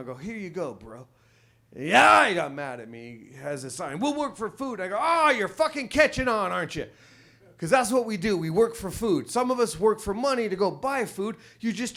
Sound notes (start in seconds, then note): 1.9 screams